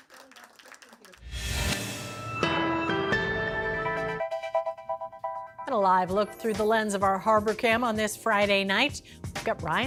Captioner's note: applause